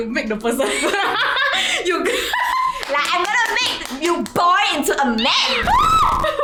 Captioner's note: excited screems